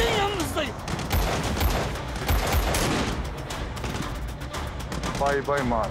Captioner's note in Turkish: Silah sesi